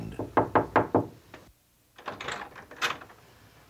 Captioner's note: knock